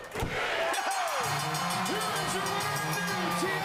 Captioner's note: bell ringing